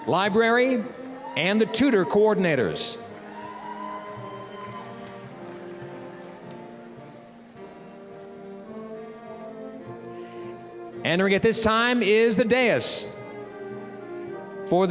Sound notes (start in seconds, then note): 0.0 applause, cheering; 3.5 applause, cheering; 7.6 orchestral music